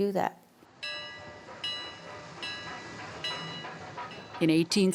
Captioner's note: train bells